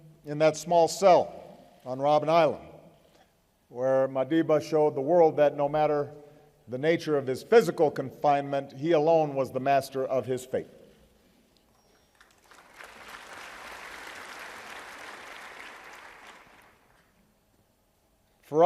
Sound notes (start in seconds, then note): 15.1 applause